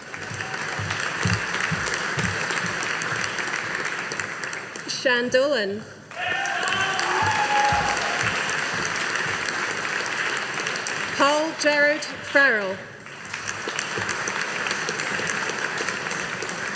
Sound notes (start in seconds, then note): 0.0 audience applauding; 6.1 audience applauding